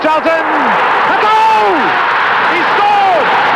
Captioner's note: crowd roaring